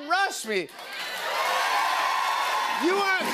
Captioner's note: cheers and applause